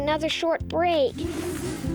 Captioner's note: whooshing